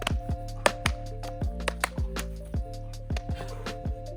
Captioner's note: hands slapping